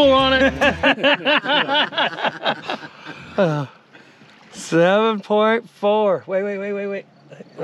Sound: laughing

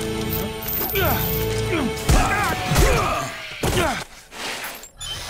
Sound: grunting

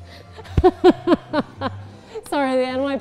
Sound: laughs

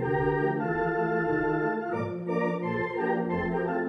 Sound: none

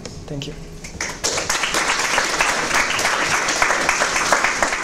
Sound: applause

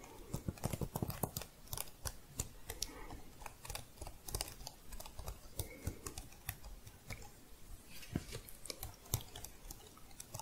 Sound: clicky tapping on keys

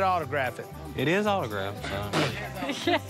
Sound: scoffs

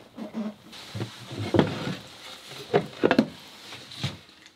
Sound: thudding

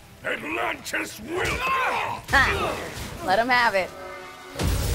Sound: both grunting

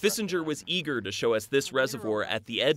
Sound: voiceover

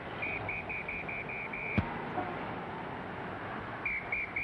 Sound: whistle blowing

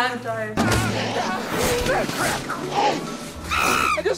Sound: yelling

